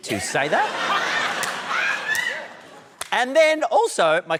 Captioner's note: laughter